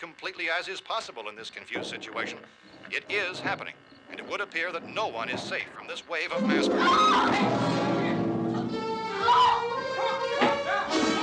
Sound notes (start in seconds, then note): 6.0 screams; 9.0 Barbra continues screaming